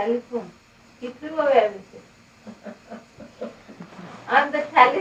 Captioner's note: shri mataji laughs